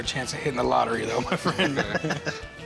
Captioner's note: all laugh